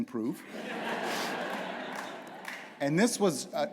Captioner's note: laughter